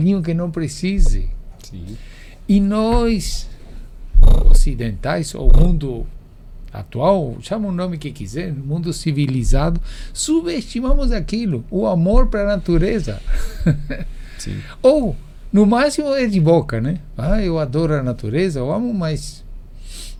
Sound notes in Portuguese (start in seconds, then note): 13.3 risadas